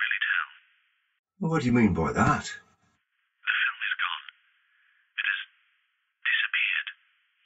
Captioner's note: on phone; on phone